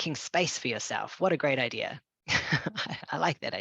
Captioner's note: laughing